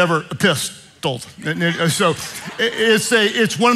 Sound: congregation laughing

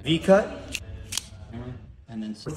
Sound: cutter snapping

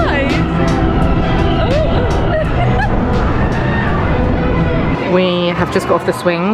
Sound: relaxed upbeat music; giggling

